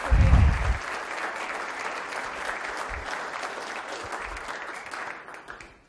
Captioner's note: audience applauding